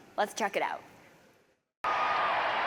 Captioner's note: cheers and applause